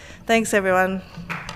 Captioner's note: applause